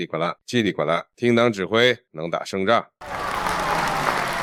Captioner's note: applause